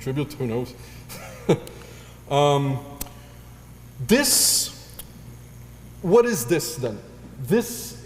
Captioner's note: laugh